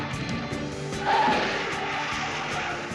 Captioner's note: brakes screeching